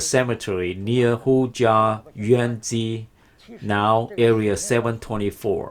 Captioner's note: speaks foreign language